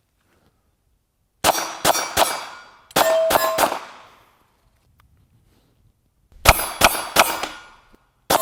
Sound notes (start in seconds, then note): 1.3 gun fires